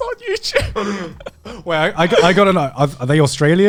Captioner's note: laughs